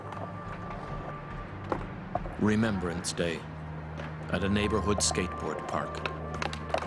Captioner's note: voiceover